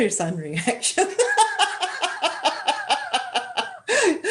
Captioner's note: laughter